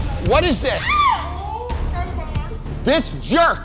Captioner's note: shrieks